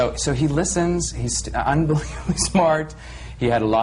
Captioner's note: he laughs